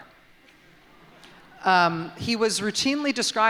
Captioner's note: laughter